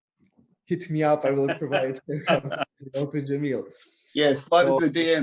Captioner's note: laughs